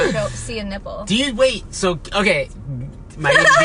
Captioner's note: laughs